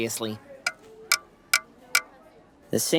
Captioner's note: banging